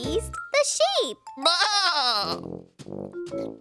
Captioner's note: giggling; happy bleating; munching